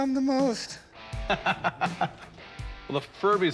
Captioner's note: laughs